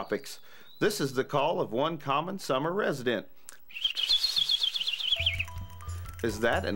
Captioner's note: wildlife call